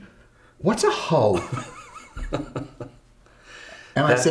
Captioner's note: braga chuckles